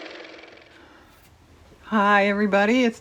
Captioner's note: car motor